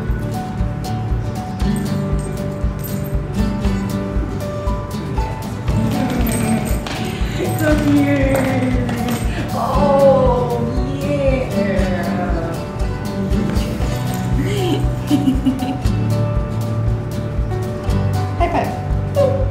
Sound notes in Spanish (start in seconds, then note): 14.9 Risas